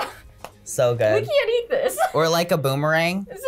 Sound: laughs

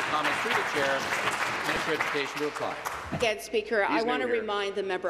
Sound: applause

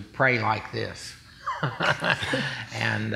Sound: chuckling

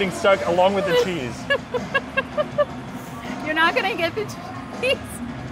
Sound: laughs

